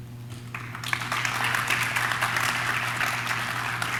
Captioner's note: audience claps